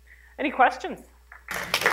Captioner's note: applause